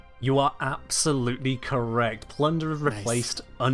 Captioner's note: none